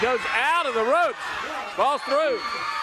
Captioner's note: crowd cheering